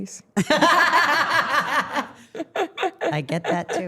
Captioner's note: everyone laughing